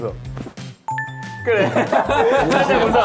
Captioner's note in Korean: 치명적인 웃음 발사